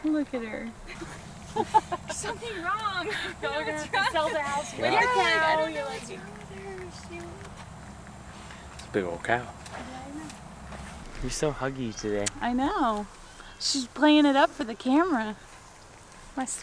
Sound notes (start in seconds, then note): 0.8 laughing